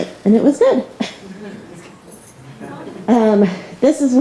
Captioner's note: all chuckling